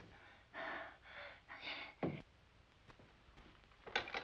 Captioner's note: deep exhaling